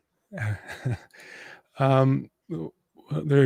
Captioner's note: chuckles